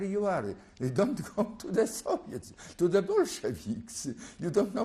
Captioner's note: laughs